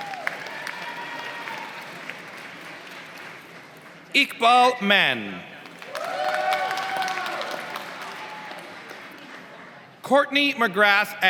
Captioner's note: applause; applause